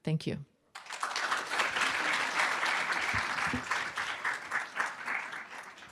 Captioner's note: applause